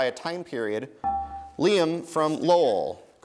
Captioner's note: dinging